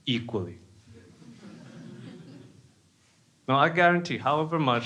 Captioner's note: crowd laughing